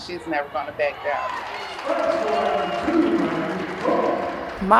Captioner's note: crowd cheering